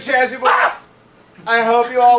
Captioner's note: Dr. Chasuble yells